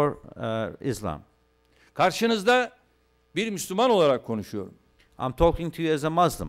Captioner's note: non-english speech